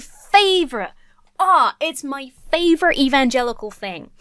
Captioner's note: gushes